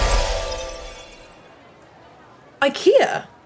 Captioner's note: busy chattering of people